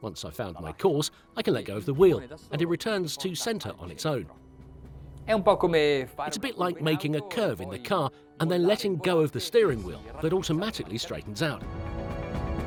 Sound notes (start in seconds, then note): 5.3 speaking in a foreign language